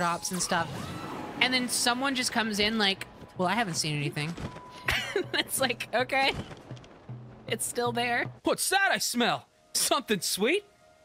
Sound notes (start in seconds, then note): 4.8 laughter